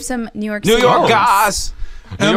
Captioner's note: in sing-song voice